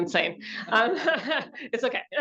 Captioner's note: laughs